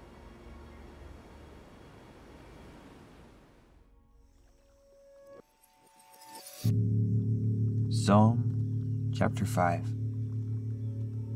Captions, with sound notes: (orchestral music) (water splashing) Psalm chapter five.